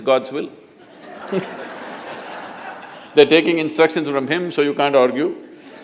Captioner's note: laughter; laughter